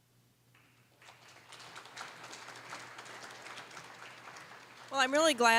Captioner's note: applause